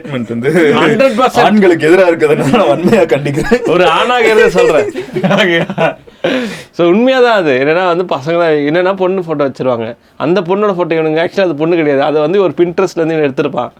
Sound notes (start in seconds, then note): 0.0 laughs; 5.7 group laughs